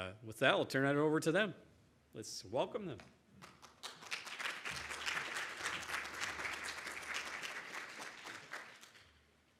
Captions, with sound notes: With that, I'll turn that over to them. Let's welcome them. (audience applauds)